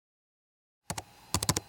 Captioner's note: keyboard noises